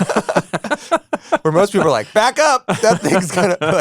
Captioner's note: both laugh